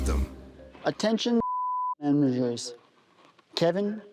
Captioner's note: beeping